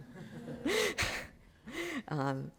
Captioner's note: chuckling